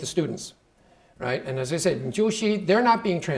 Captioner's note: speaking Chinese